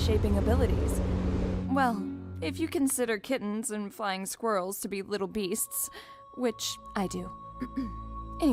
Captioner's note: clears throat